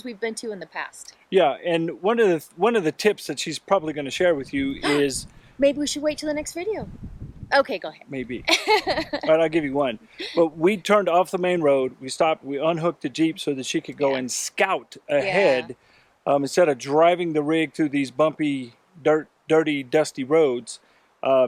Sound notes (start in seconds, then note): 4.8 gasps